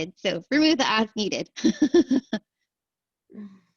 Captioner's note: laughter